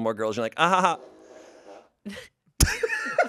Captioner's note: chuckles; fart machine farts; everyone laughs